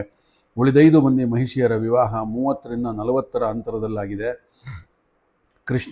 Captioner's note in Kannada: ಬುಸುಗುಟ್ಟುವಿಕೆ